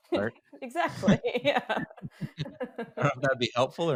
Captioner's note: laughs